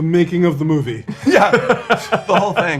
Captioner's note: cast laughs